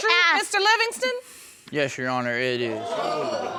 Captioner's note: audience exclaims